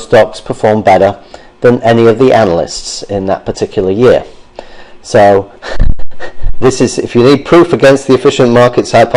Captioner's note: laughter